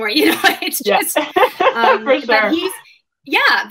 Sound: laughing; laughs

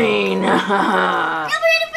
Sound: laughs

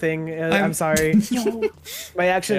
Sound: giggle

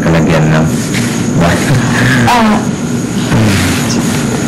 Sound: chuckles

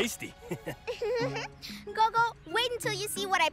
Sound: giggles

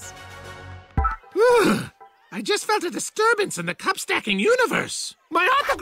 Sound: shuddering

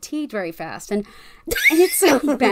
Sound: laughs

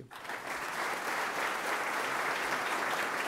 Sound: applause

